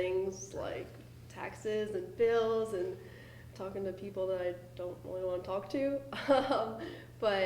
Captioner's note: laughter